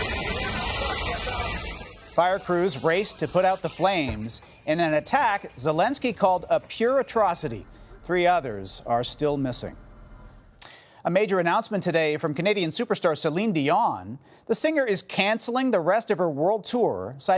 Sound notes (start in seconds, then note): 2.3 sirens